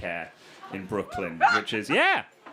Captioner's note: person laughs